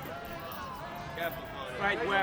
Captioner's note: men cheering on Conan